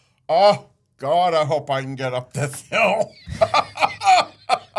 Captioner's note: laughs